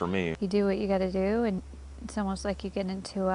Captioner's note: voiceover